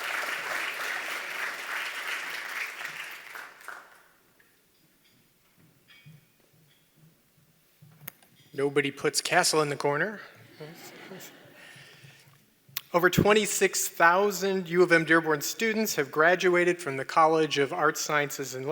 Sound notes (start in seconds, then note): 4.4 applause; 10.5 laughter